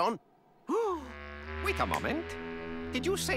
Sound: gasp

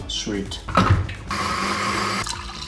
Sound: blender whirring; drink gurgling

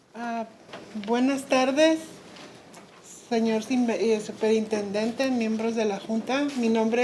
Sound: speaking in foreign language

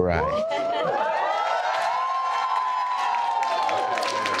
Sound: guests cheer

